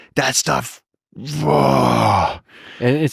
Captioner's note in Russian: рычит